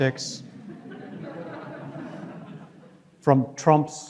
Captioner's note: audience laughs